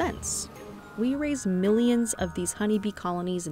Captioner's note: bees buzzing